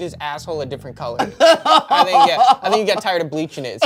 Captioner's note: laughs